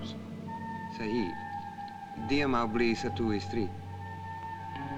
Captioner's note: Malay spoken audio